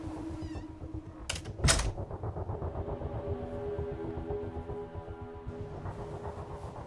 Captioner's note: door clicks; dramatic music